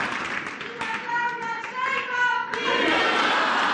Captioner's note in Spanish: aplausos